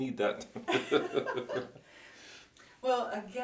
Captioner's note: both laugh